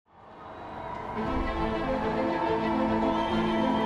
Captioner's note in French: acclamations